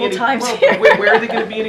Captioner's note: laughs